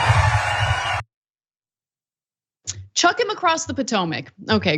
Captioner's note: applause